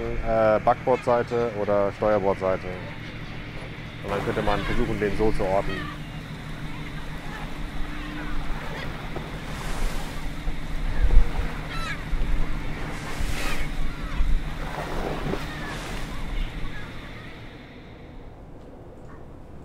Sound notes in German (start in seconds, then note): 10.3 Möwengeschrei